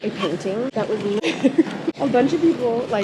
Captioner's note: laughing